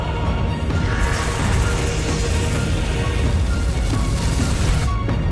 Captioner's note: energy beam whooshing